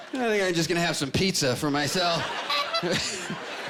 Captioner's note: honking